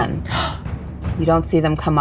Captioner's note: gasping